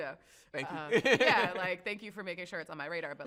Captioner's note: chuckles